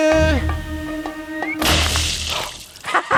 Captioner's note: whistling, splash!; laughs